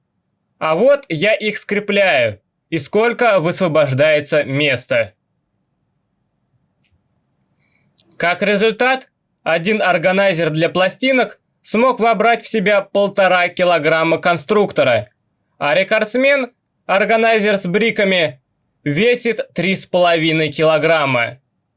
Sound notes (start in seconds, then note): 5.2 silence